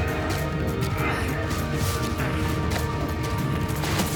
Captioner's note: grunts